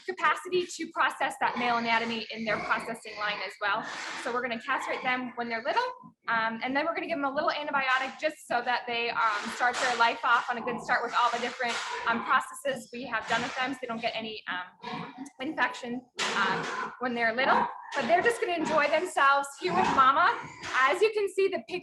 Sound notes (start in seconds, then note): 15.9 pig squealing